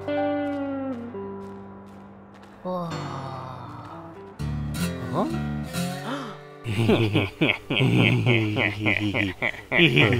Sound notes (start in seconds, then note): 6.0 gasp; 6.6 menacing laughter